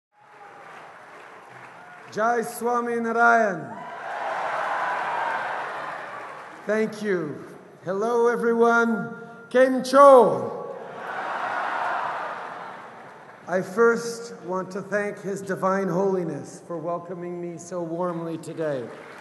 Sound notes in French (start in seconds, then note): 3.4 Acclamations et applaudissements; 10.7 Acclamations